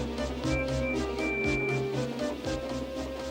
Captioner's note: Percy whistles